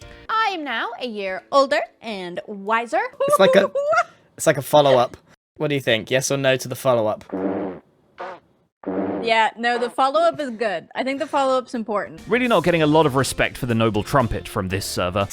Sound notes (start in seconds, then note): 3.2 laughs; 7.2 big fart; 7.2 smaller fart; 8.8 big fart